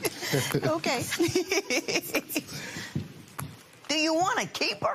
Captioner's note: laughter